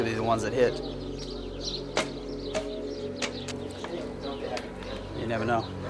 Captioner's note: birds chirping